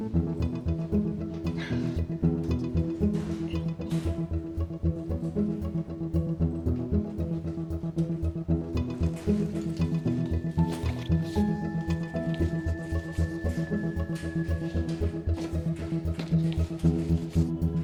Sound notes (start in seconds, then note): 1.6 Jane sighs; 3.3 pulsating music